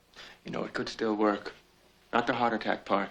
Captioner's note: none